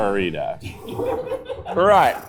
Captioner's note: crew laughing